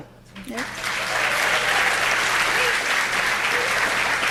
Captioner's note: audience applauding